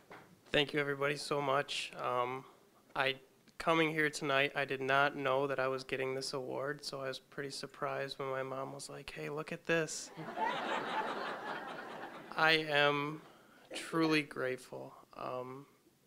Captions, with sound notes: >> THANK YOU EVERYBODY, SO MUCH. UM, I-- COMING HERE TONIGHT, I DID NOT KNOW THAT I WAS GETTING THIS AWARD, SO I WAS PRETTY SURPRISED WHEN MY MOM WAS LIKE, "HEY, LOOK AT THIS!" (audience laughing) I AM TRULY GRATEFUL.